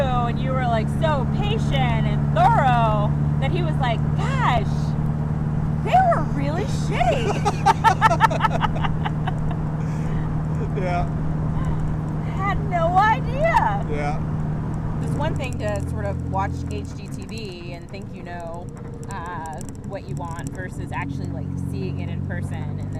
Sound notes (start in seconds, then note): 6.9 both laughing